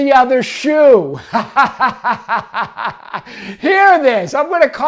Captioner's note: laughs